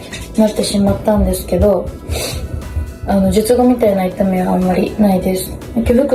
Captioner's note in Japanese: 鼻息